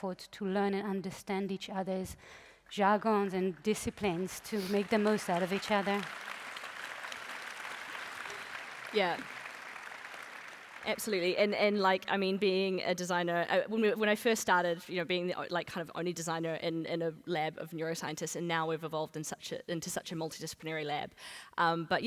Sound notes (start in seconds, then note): 6.8 applause